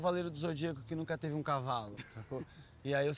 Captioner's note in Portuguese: risada